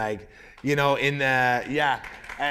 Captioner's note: applause